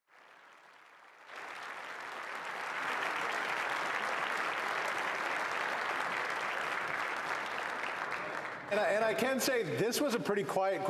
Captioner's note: applause